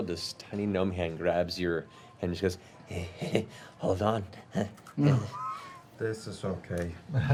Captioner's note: heh heh